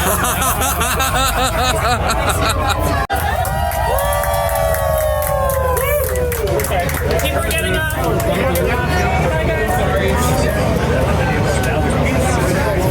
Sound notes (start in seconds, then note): 0.0 laughing; 3.4 cheering